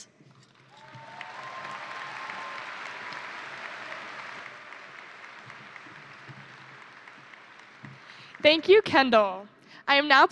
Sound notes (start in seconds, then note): 0.5 crowd applauding; 0.5 crowd cheering